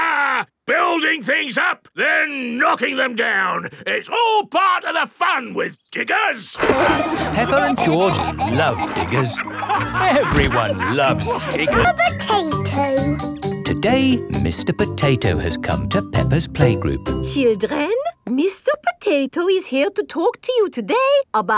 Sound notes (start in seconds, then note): 6.6 peppa and george laughing